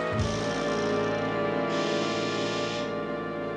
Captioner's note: door buzzes